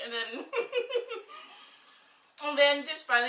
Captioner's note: laughs